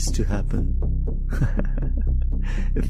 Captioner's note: laughs